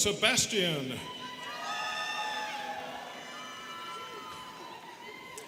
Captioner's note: students cheering